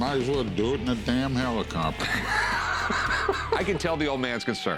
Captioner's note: laughs